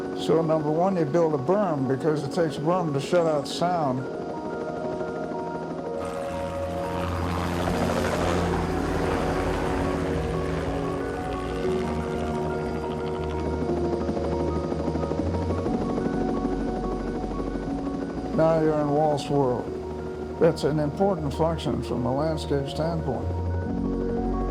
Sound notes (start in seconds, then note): 0.0 gentle orchestral music continues; 6.7 gentle orchestral music; 6.7 helicopter whirring; 24.3 gentle orchestral music continues